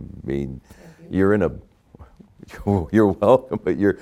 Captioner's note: chuckling